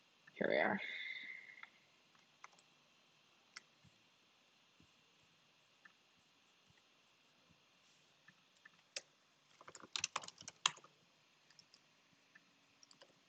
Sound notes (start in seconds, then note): 2.7 keyboard rattling